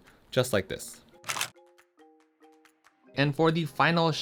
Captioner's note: camera clicks